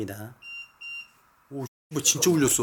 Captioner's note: beeping